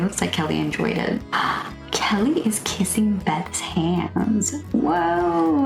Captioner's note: inhale